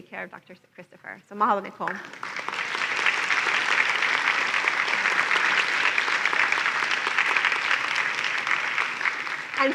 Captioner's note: applause